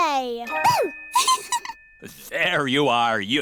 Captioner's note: giggles